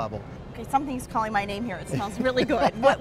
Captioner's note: laughs